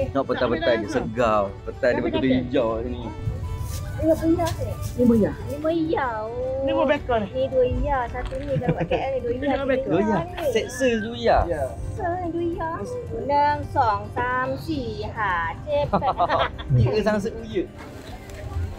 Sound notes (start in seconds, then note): 13.2 speaking Thai language; 16.7 speaking Chinese